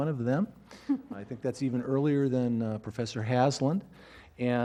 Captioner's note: laugh